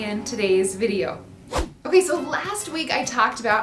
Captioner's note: whoosh